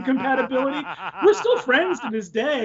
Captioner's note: laughing